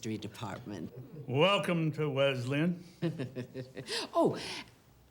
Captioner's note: chuckles